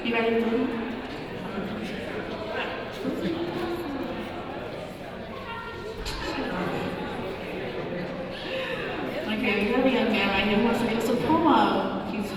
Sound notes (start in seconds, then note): 1.9 audience talking